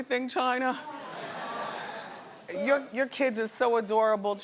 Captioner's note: audience laughs